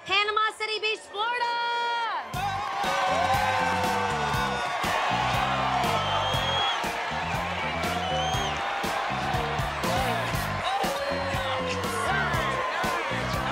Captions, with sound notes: - Panama City Beach, Florida! (funky music begins) (crowd continue cheering)